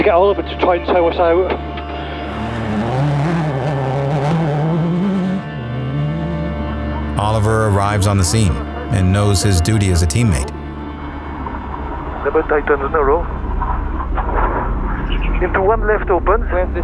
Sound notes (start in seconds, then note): 2.1 car revs